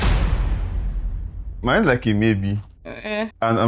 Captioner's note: laughs